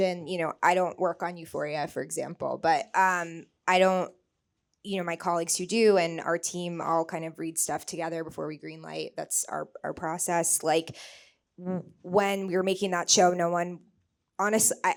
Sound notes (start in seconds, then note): none